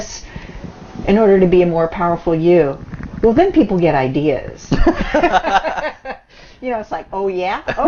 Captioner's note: both laughs